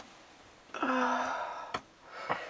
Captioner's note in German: seufzt